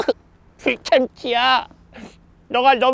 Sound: sobs

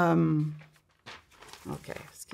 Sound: paper rustling

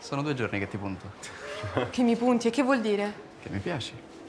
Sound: laughs

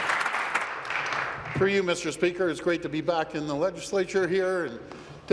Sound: applause

